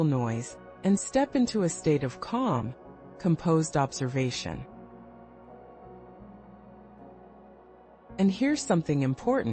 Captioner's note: pause